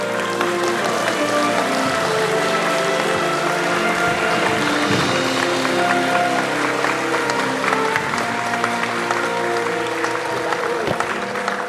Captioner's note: applause